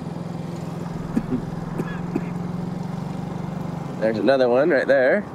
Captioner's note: coughs